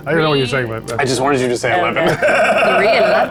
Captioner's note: guys laugh